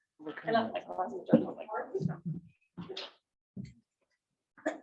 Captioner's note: attendees chattering